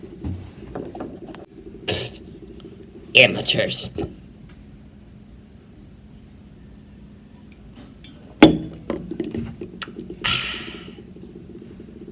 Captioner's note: bottle places on table